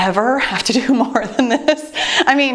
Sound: chuckling

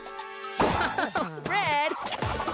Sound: laughing

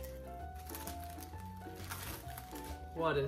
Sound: plastic crinkling

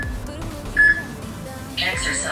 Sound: peep

